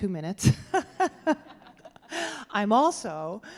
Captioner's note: laughing